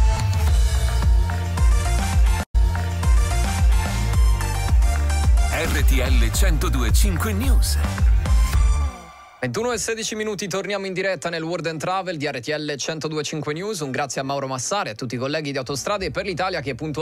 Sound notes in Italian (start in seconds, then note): 4.5 Applauso